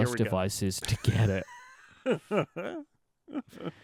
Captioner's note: laughter